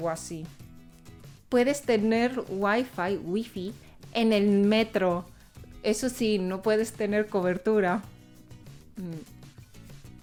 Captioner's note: Spanish accent